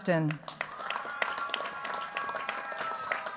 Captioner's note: cheers, applause